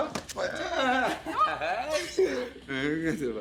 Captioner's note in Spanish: Risas